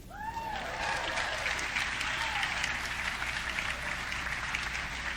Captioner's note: audience cheering